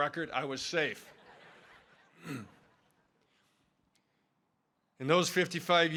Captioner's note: audience laughing